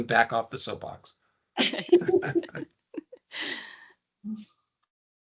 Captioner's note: laughing